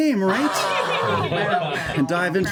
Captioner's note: cheering